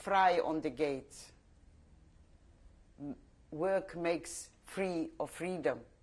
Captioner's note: pauses for 3 seconds